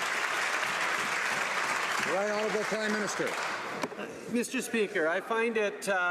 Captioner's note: some Applause